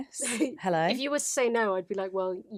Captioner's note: laughs